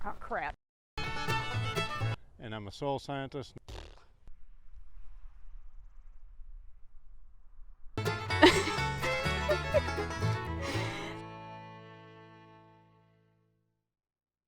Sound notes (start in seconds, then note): 1.2 upbeat music; 3.7 blowing a raspberry; 8.3 woman laughing